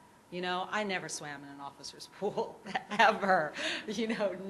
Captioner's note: laughs